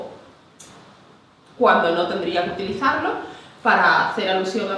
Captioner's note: in standard Spanish